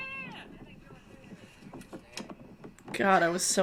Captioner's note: wind blowing